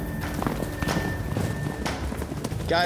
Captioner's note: hoofbeats